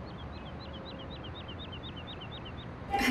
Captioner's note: Birds chirping